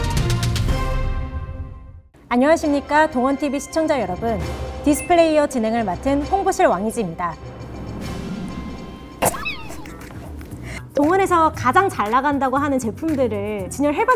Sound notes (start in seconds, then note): 9.3 holding laugh